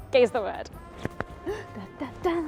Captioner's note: hands clap; gasps